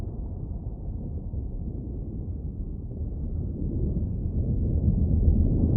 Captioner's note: rain storm continues